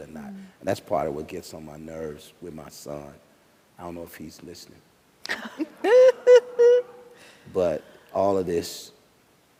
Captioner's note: laughter